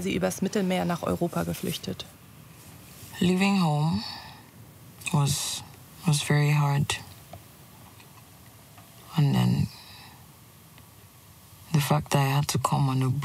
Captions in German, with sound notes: sei sie übers Mittelmeer nach Europa geflüchtet. (englisch:)